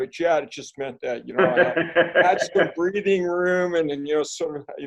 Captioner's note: laughing